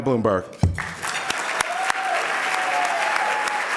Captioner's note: applause